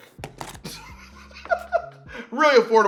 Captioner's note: chuckles